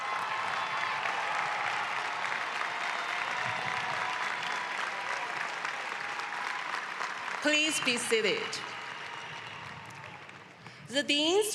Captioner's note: cheering and applause